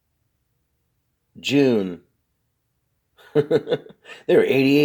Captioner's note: laughs